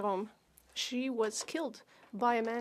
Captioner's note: speaking French